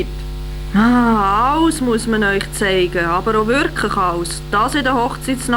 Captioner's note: annoyed